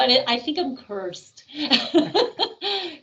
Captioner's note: chuckling